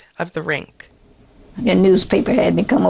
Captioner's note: soundbite of archived recording